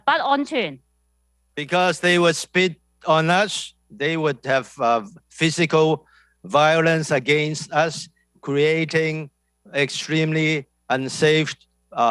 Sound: speaking non-english

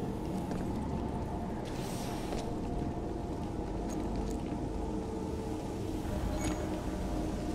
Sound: none

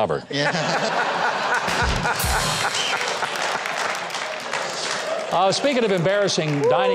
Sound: crowd laughing

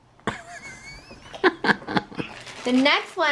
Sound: man laughs

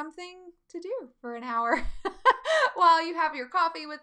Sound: laughing

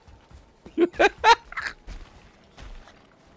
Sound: laughs

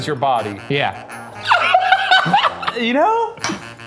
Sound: laughing

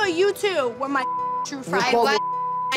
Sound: beep

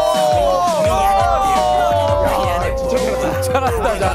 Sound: super excited audience

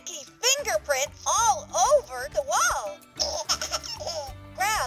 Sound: laughs

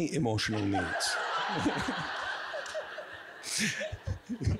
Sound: all giggling

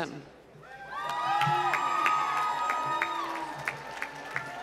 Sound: applause

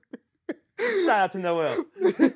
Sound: laughing

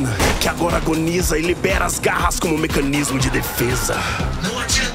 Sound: robot screams

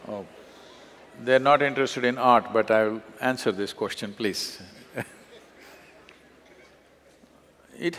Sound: laughs

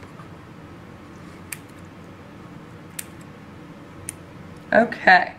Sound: clipping sounds

